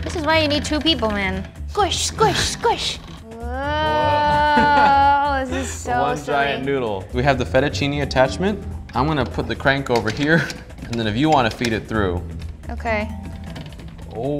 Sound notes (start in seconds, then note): 4.0 laughter